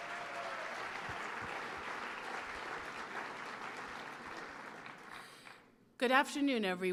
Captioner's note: applause